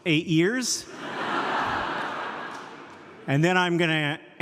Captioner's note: audience laughs